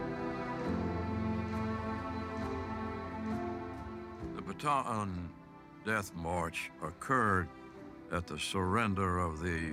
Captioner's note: applause